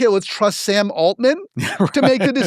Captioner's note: laugh